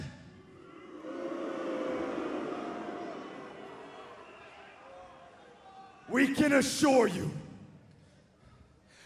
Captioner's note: crowd cheering